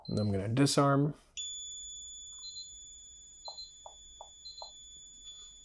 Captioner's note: alarm beeping